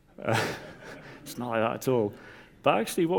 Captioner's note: audience laughs